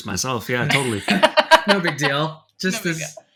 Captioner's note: laughing